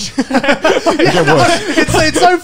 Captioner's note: laugh